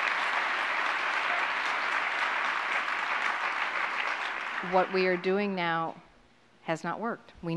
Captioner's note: applause